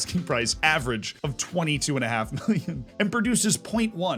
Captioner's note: laughs